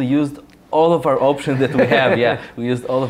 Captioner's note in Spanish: risas